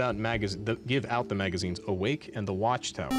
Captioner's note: beep